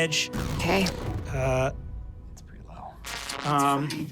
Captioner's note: engine powering down; static crackling